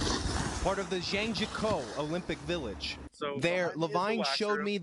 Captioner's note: skiers and snowboarders go